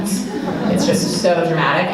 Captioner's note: audience laughing